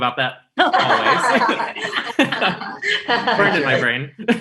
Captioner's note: laughs